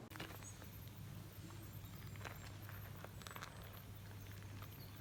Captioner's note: footsteps plodding